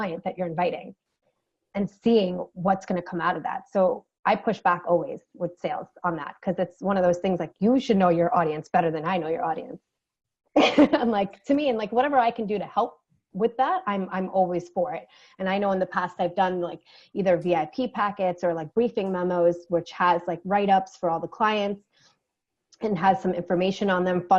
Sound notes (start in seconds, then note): 10.7 laughing